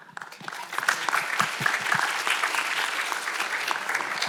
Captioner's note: audience applauds